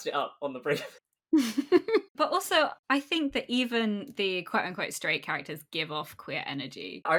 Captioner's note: laughs